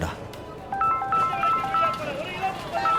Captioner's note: mobile ringing